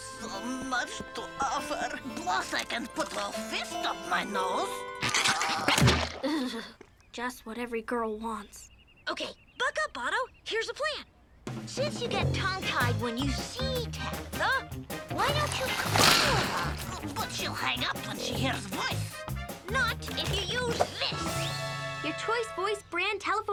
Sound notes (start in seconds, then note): 0.0 sad music; 4.5 Otto groaning; 5.0 nose squelching; 5.0 Lizbeth shuddering; 14.9 snot squishing